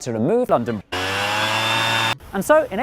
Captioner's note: leafblower noises